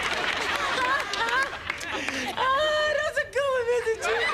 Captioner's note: laughing